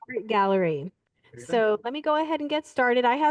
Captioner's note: audio blurs